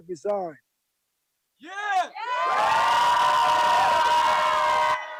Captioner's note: group cheering